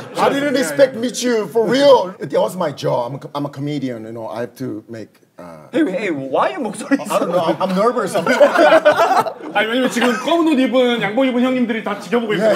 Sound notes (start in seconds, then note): 4.3 voice is shaking